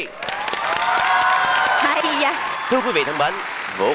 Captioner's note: clapping